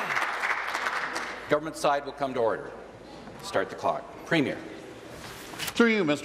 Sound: applause

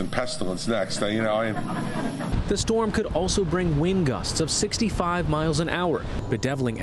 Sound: laughter

